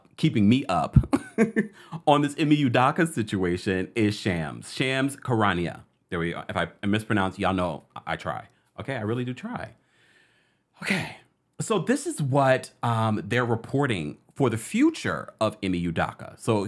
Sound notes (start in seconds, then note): 1.0 laughing